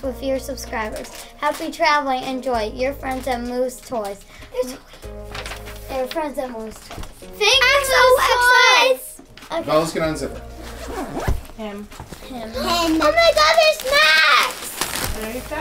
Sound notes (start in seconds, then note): 10.5 zip